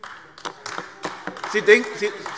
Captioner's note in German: Beifall AfD